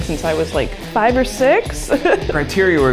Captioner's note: chuckles